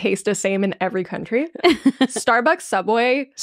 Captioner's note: laughing